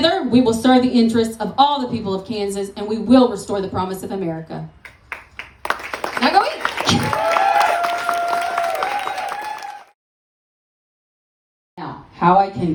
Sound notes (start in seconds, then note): 4.8 applause